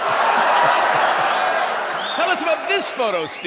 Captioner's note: people cheering